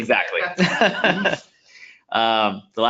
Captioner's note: laughing